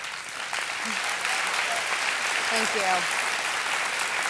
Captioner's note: applause